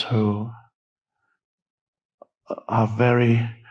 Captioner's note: none